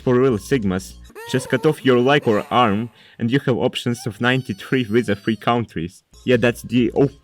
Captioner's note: arghhh